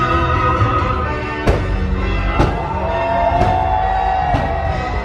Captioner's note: fireworks exploding